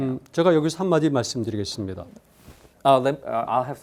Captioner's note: speaking in Korean